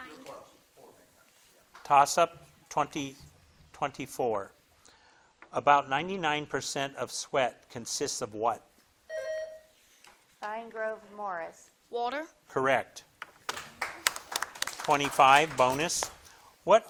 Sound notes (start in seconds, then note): 9.1 buzzer blips; 13.3 crowd claps